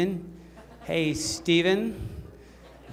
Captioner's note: laughter